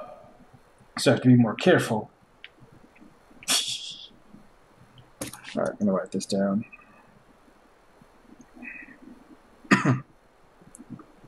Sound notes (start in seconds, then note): 3.3 titters; 9.6 coughs